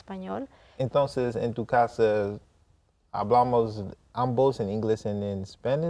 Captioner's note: speaking in Spanish